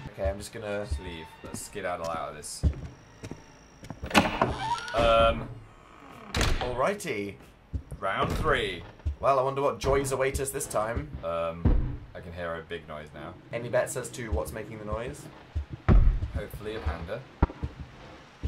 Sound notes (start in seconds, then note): 14.8 thumping